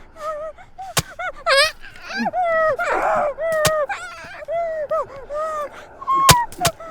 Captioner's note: knife stabbing; documentarian shrieking